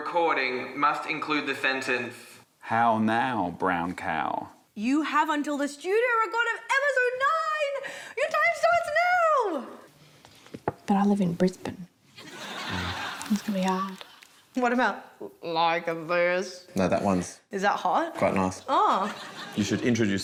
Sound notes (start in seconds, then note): 12.2 laughter; 14.8 gruff voice